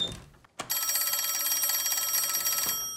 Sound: telephone ringing

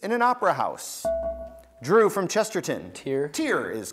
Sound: buzzer beeps

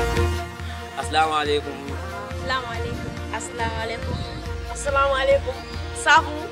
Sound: Arabic

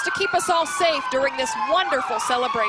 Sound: sirens

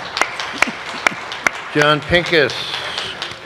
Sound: applause

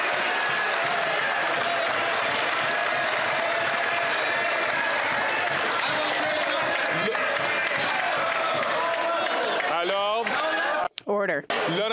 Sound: some Applause

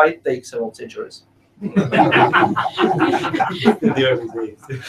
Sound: laughing

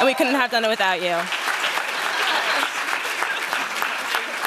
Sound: applause

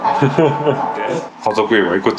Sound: laughs

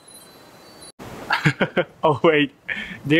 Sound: chuckle

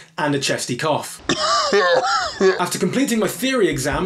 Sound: cough

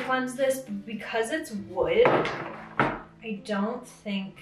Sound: bowl thuds

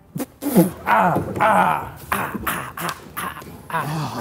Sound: Ethan groaning

